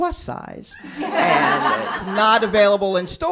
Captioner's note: laughter